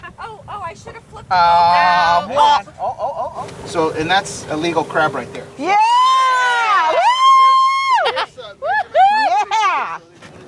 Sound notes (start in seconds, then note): 5.8 cheering